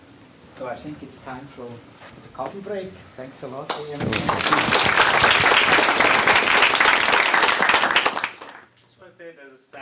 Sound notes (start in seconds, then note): 3.6 applause